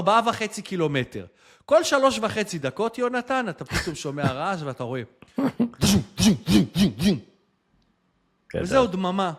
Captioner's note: laughter